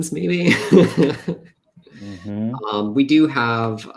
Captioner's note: laughs